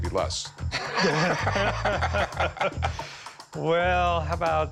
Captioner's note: laughing